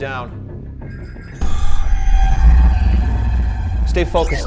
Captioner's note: electronic beeping